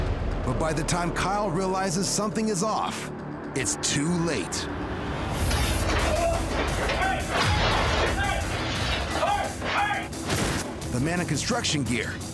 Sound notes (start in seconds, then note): 5.2 groans; 5.2 spray hisses